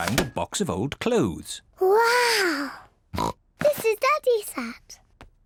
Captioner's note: oinks